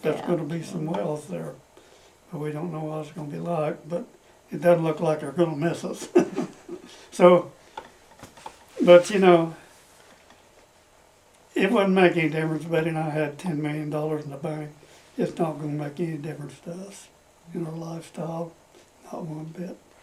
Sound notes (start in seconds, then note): 6.0 laughs